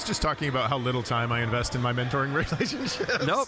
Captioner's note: laughing